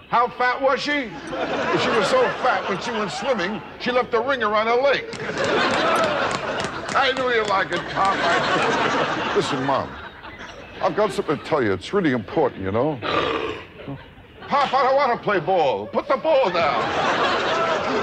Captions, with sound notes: How fat was she? She was so fat when she went swimming she left a ring around the lake. I knew you'd like it, Pop. Listen, Mom, I've got somethin' to tell you. It's really important, you know. (seal barks) Pop, I don't wanna play ball. Put the ball down.